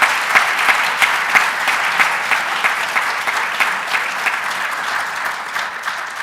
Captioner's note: applause